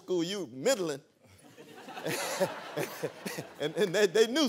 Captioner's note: laughter